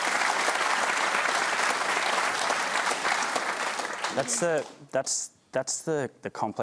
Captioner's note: applause